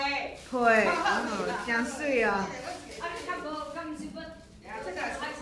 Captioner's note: speaking foreign language